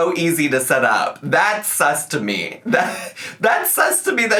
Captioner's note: laughs